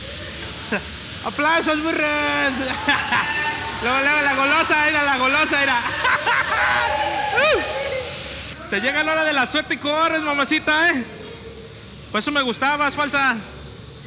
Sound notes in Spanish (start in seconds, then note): 3.2 risa; 7.4 risa